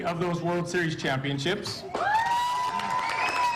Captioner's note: cheers and applause